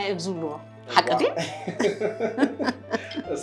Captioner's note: laughs